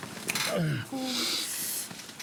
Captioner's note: John groans